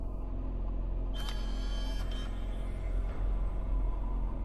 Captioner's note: mechanical whirring